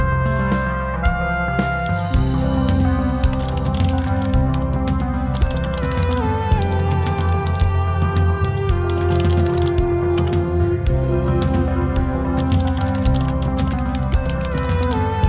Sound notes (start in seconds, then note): 3.3 typing noises